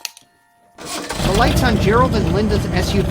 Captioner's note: car engine revs